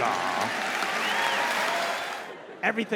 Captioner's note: audience clapping; audience laughing